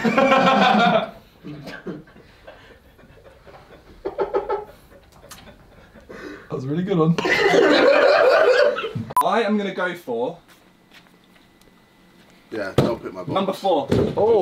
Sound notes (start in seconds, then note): 0.0 people off camera laughing; 7.2 laughing